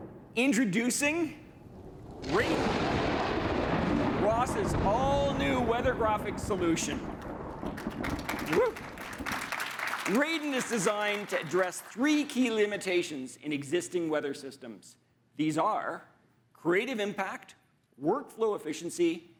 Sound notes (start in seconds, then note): 7.6 audience applauding